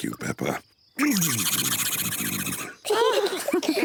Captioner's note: spluttering; all laugh